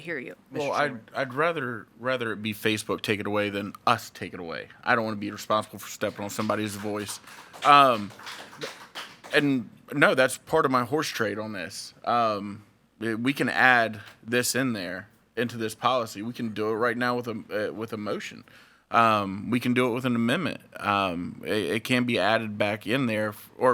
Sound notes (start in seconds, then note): 8.2 audience applauding